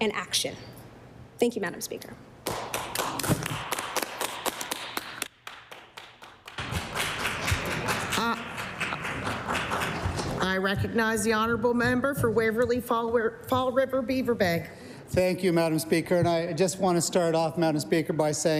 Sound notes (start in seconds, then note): 6.0 applause